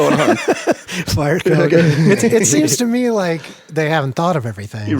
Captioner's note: laughs